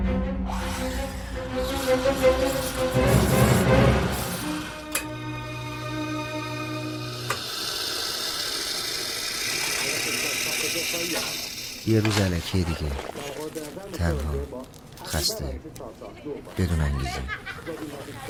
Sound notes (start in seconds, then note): 0.6 espresso machine sound; 6.0 espresso machine sound; 15.8 inner talk, people laughing